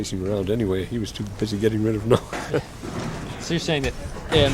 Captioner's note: laughter